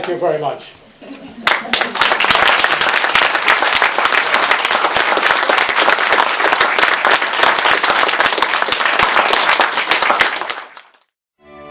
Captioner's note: applause